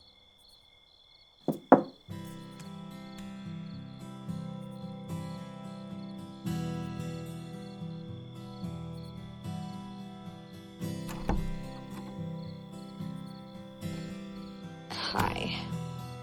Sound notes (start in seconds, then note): 1.4 knuckles tapping; 2.3 gentle music; 11.0 door clicks